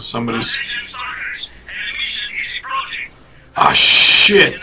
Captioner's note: radio warning